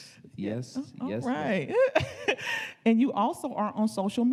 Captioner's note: chuckling